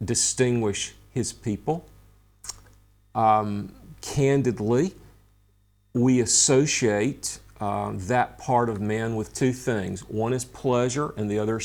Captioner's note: smacks lips